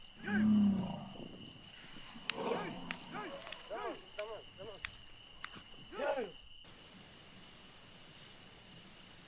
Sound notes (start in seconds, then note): 2.3 men shouting